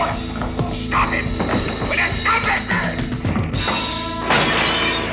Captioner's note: judge yelling